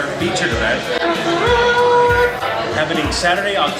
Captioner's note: blows into hand